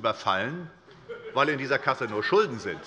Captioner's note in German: Heiterkeit des Abg